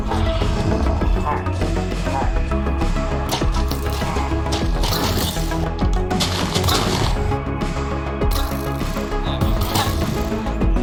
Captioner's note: growl